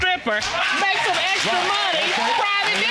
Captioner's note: audience cheering